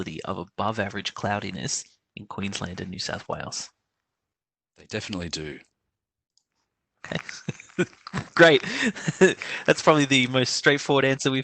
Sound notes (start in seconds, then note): 7.0 laughs